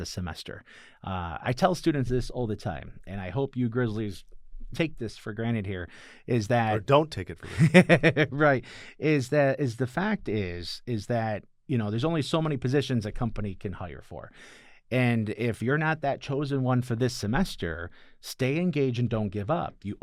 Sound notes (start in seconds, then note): 7.4 laughter